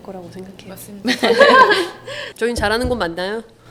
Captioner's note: laughs